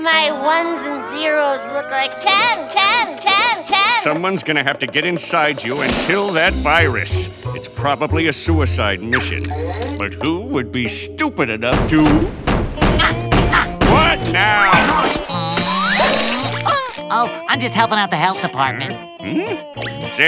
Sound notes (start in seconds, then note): 11.9 hammer banging; 13.0 SpongeBob grunting